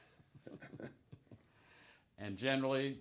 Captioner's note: both chuckling softly